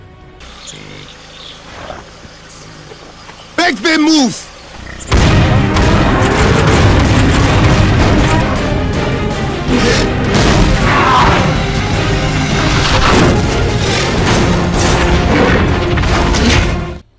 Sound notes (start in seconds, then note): 5.0 rapid shotgun fire and action music; 8.4 action music; 10.3 thwack; 10.8 action music